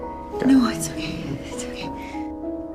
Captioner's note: voiceover